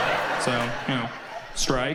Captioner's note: audience applauds